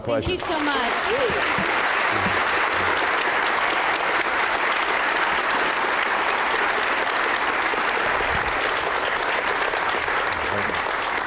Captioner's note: applause